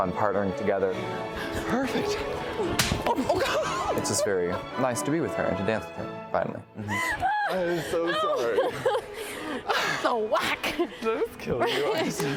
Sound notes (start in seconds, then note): 2.7 slap; 11.6 laughing